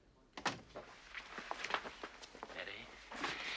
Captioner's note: Дверь закрывается